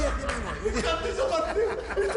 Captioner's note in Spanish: Risas